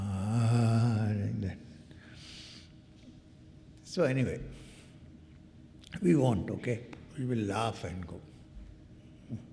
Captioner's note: groaning